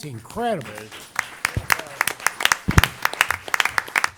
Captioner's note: applause